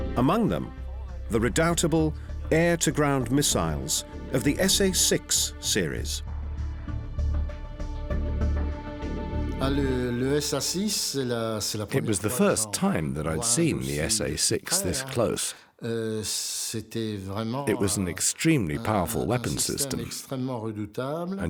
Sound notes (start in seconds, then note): 10.1 speaking French